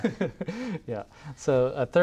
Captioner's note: laughs